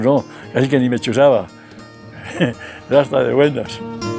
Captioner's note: giggles